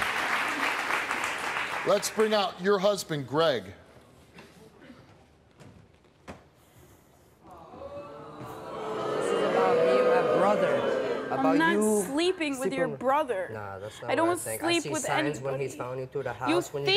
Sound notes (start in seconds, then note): 7.6 audience jeers